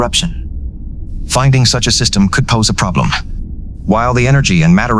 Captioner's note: calmly